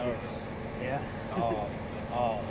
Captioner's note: chuckles